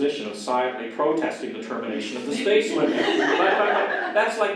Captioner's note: audience laughter